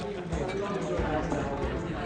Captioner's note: guests chatter